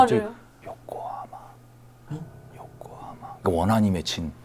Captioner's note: sounding full of unresolved resentment